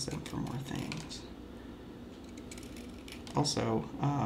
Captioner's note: knife scraping on pencil